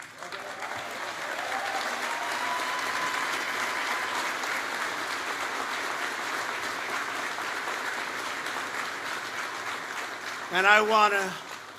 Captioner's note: applause